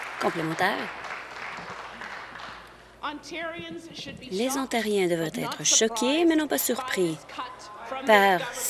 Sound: applause

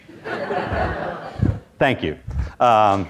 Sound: students laugh

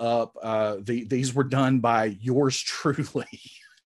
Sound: chuckling

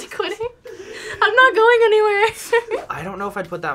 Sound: laughs

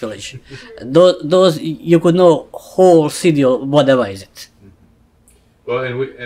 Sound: laughs

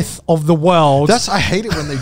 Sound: laughing

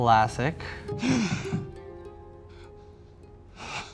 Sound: pants

